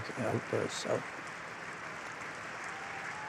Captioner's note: cheering and applause